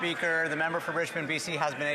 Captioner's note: applause